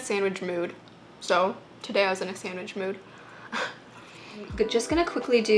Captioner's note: laughs